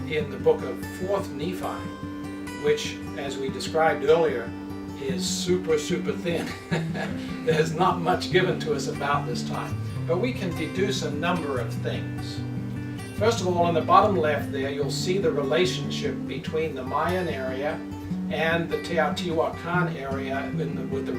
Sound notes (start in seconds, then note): 6.4 laughs